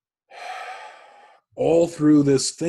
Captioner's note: sighs